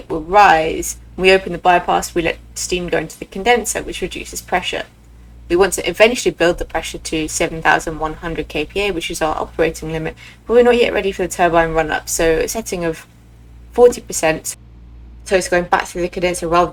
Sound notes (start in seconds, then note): none